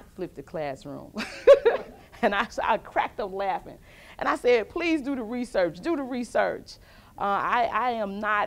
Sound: laughs with audience

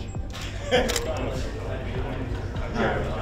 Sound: camera Clicks

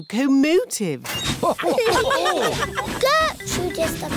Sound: laughter

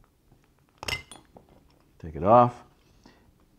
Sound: clink

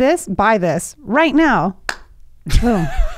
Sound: hands slapping; laughing

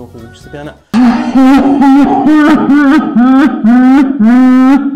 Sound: uncontrollable sobbing

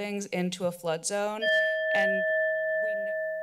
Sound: timer sound

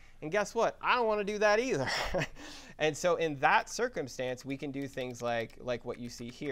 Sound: laugh

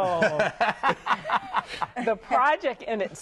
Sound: laughter

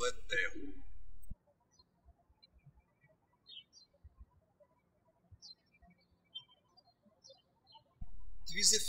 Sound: birds chirping

